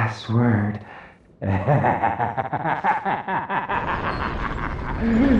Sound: laughing

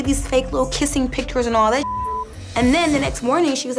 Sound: beep

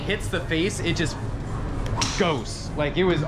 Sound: golf club whacks

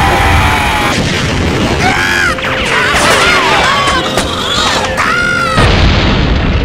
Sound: screaming

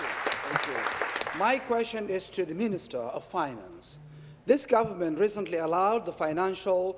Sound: applause

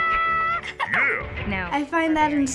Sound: giggles

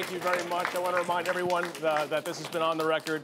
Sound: applause

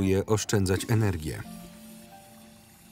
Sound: toilet flushing

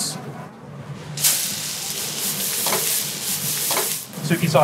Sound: food sizzles

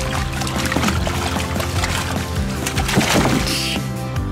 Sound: splashing water

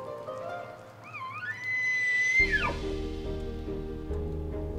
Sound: elk bugles

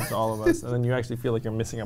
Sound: laughs

